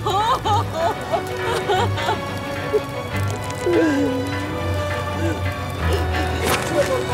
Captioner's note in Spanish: Sollozos